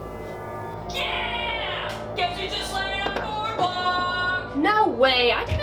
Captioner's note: yelling in the other room